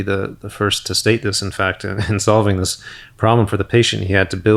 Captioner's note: chuckles